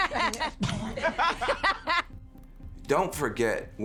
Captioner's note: all laugh in unison